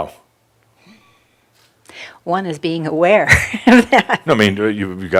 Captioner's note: she chuckles